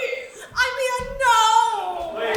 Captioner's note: audience laughs